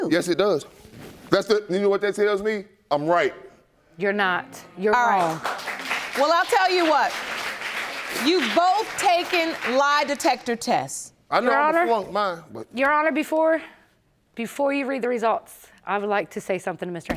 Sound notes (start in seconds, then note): 5.1 audience applauding